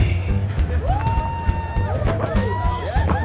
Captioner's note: audience whooping